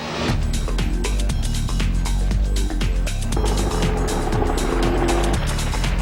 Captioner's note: helicopter blades whirling; techno music